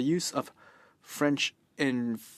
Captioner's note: speaking in French